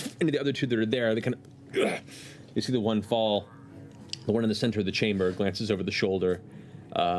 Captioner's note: grunt